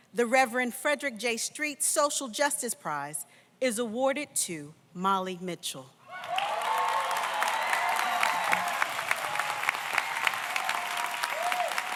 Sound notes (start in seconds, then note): 6.1 audience cheers; 6.2 audience applauds